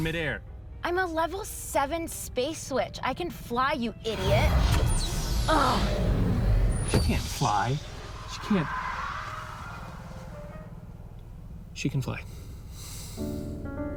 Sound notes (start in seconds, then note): 12.2 sighs